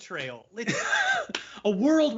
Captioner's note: laughs